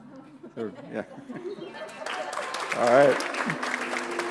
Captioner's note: applause